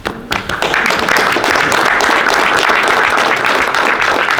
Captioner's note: audience applauds